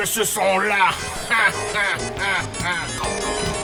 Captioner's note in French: Rire démoniaque